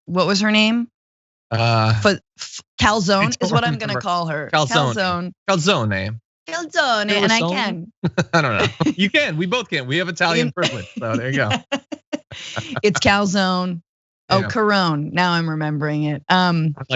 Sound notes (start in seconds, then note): 6.7 laugh; 10.8 laugh